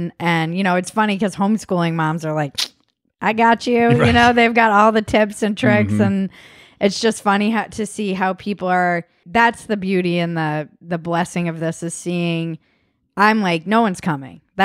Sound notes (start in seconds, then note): 2.6 clicks tongue